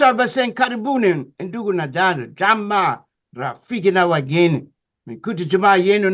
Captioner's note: african Language